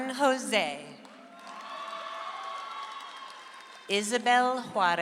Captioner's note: audience applauds